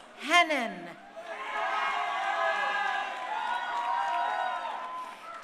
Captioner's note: crowd cheering